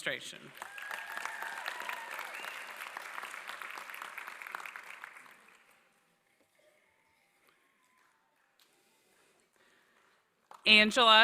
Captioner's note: applause